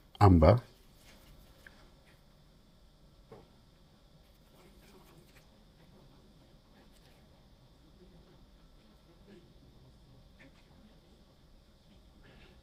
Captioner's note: silence